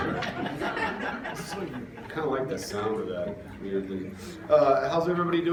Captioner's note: laughter